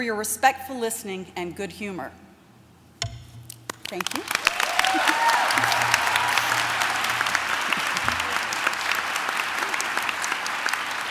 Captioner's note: applause